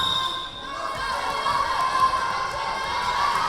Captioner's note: whistle blowing; yelling